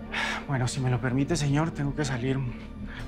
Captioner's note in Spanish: none